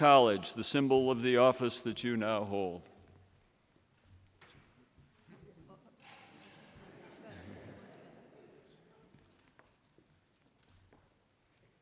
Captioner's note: laughter